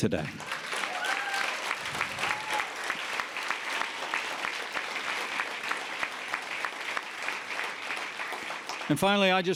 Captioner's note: applause